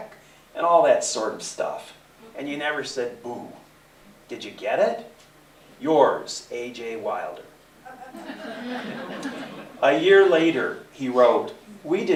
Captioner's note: laughter